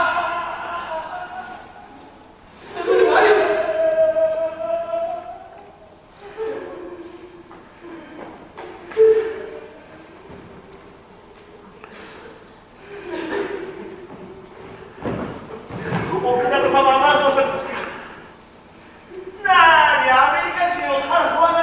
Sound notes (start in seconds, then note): 0.0 reciter's cries continues; 3.9 reciter's cries continues